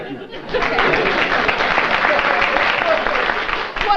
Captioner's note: applause